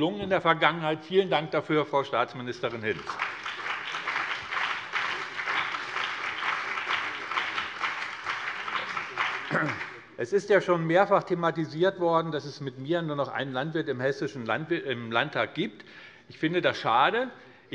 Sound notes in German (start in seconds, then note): 2.8 Beifall BÜNDNIS 90/DIE GRÜNEN